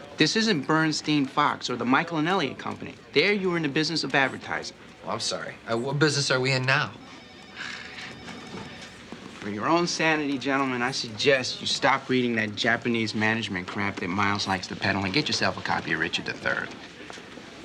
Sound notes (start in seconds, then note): 7.5 chuckles